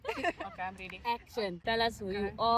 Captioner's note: laughing